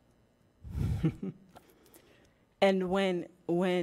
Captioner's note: chuckling